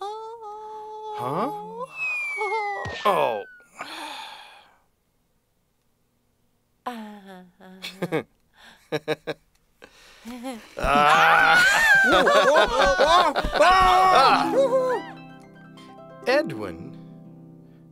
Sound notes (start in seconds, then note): 1.9 whizzing; 2.3 plop plop; 8.0 laughing; 10.8 screaming